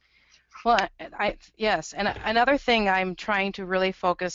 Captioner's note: voiceover